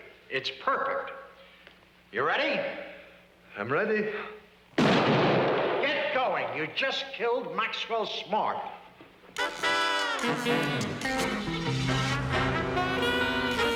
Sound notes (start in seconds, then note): 4.8 gun bangs; 10.2 tense music